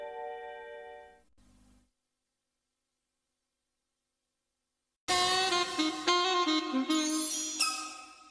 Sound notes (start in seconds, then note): 1.2 silence; 5.1 music finishes in a music snippet